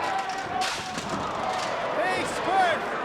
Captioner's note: spectators exclaiming